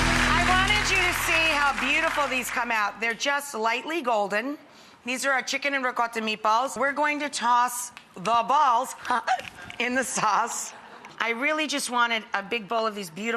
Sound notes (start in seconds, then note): 9.1 laughing